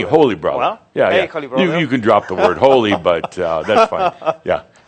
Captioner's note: chuckles